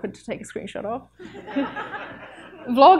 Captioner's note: audience laughs